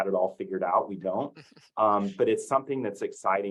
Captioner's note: laughs